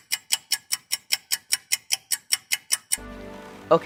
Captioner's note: clock noises